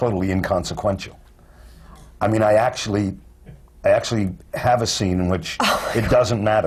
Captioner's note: laughter